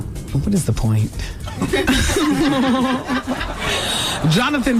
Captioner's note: laughter